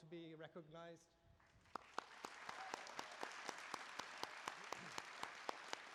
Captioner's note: applause